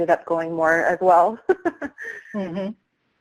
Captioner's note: laughs